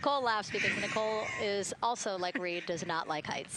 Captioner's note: laughter